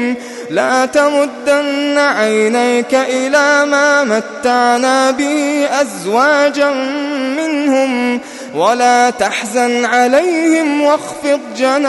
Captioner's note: longingly